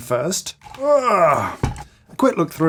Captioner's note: grunting